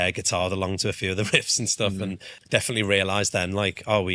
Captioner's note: chuckles